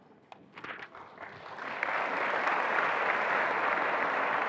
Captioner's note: attendees applauding